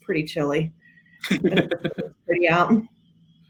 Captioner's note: laughing